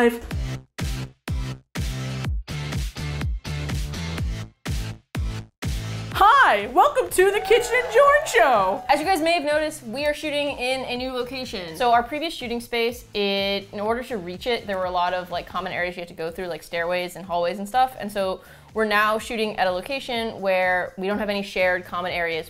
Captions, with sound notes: [upbeat pop music] - Hi! Welcome to The Kitchen and Jorn Show! *audience cheers* - As you guys may have noticed, we are shooting in a new location. So, our previous shooting space, it-- it in order to reach it, there were a lot of like common areas you had to go through, like stairways and hallways and stuff, and so we're now shooting at a location where we don't have any shared common areas